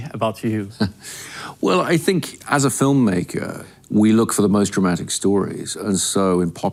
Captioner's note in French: rires